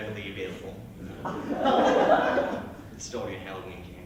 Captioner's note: laughter